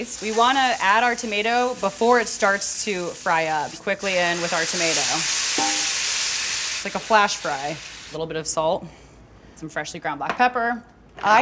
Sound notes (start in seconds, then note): 5.3 pan sizzling